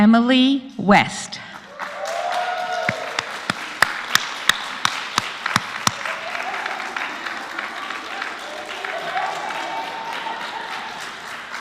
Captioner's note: applause